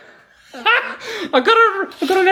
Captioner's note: laughs